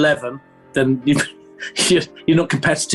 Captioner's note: laughing